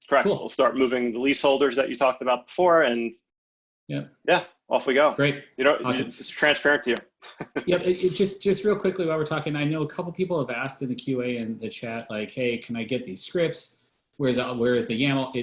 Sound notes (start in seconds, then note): 7.2 laughs